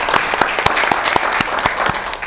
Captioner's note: applause